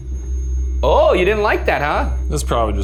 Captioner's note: REM-pod beeps